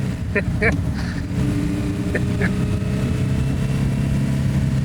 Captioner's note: laughter